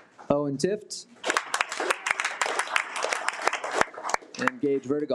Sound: audience applauding

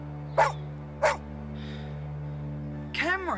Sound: barking

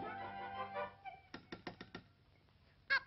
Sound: clicks

